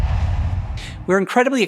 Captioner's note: logo swooshes